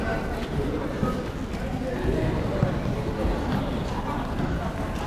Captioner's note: crowd murmuring